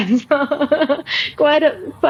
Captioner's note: laughs